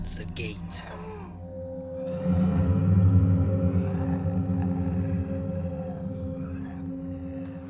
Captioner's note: soft distorted ominous tone; clones snarling